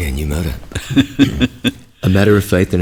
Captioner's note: chuckles